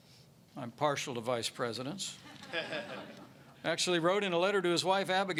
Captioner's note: laughter